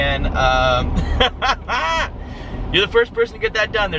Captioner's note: laughs